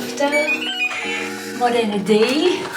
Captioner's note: lock chime